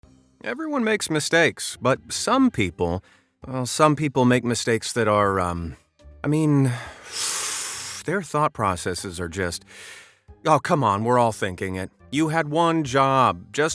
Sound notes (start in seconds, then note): 6.6 inhales